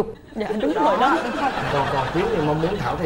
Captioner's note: laughing